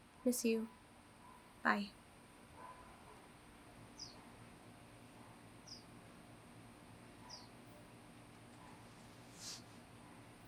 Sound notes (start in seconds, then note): 3.9 birds chirping